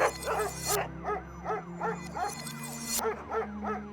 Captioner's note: dogs barking